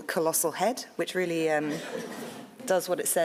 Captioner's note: audience laughs